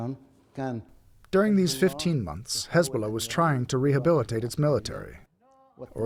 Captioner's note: through translator